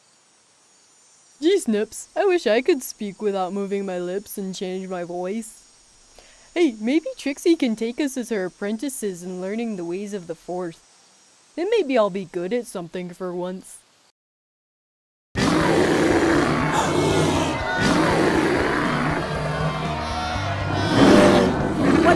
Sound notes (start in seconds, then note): 15.4 ursa minor roars; 16.9 panicked noises